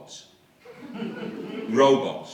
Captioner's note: laughter